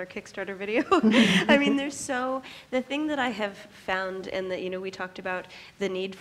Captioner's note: laughs